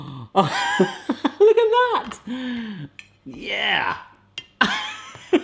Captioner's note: laughs